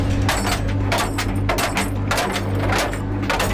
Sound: chains clanking

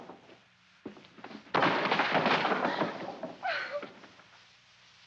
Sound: crashing sound

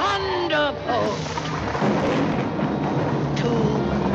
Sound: thunder rumbles

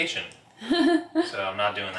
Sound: laughs

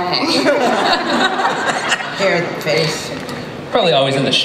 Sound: laughter

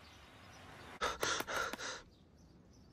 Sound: panting

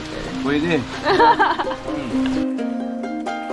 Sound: laughs

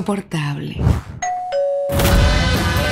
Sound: door bell ringing

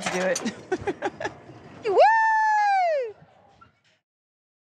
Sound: laughs

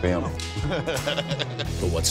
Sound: laughing

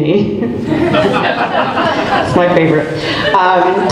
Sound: group laughs

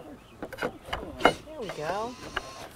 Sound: rattling of balusters into upper rail holes

